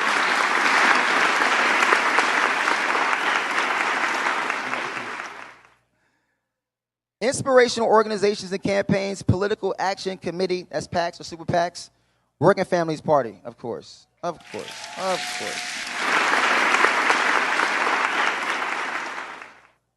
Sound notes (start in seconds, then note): 4.3 applause